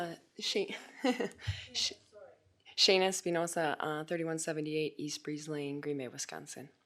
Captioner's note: laughs